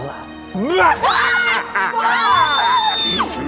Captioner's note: creepy laugh and frightened screams